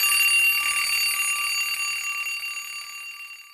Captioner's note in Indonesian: lonceng